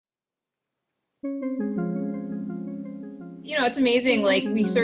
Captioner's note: forest sounds, music